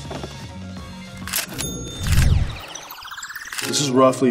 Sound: ka-ching

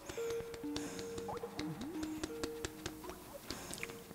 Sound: video beeping

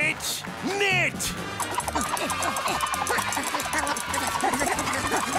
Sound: grunting

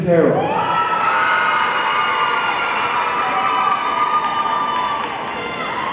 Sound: audience cheering and applauding

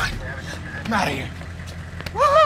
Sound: head thudding

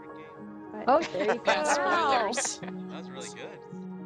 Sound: laughing

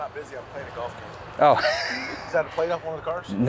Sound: laughs

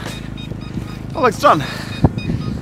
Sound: chargers beeping

